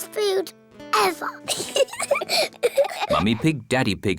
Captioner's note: both giggle